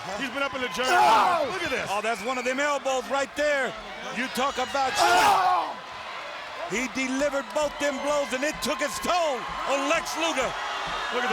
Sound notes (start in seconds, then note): 5.9 Lex grunts